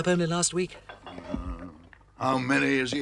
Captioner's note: badger groans